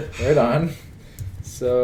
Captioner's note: laughs; chuckles